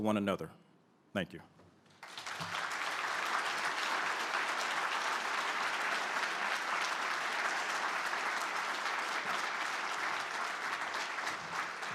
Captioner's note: applause